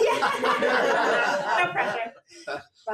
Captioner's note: everyone laughs